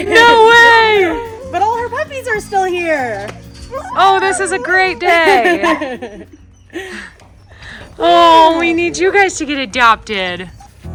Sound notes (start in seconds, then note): 4.8 laughing; 5.7 dogs barking